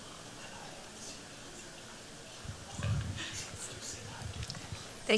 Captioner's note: whispering